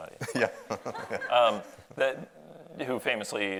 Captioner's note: audience laughs